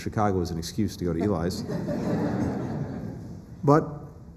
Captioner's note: laughter